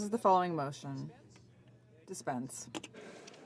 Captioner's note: speaking french